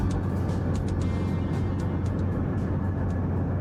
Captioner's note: the music fades out, car humming